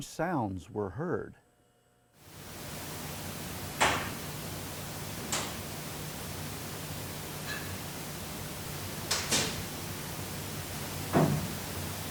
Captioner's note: clanging and banging